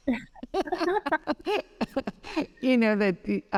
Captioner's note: both laughing